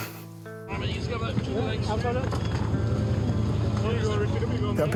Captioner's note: laughs; people chattering